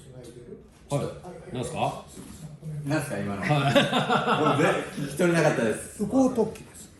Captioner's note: sounding laughter